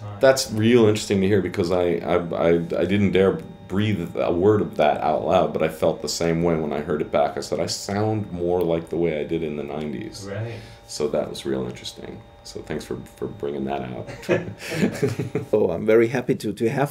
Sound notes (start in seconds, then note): 14.0 laughs